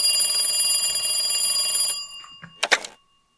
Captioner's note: phone rings